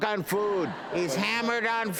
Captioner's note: audience laughs